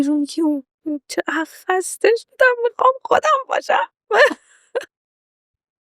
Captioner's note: laughs